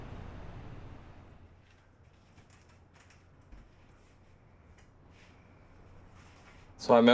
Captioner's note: city traffic sound; sound of packing